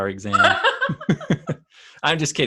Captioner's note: both laugh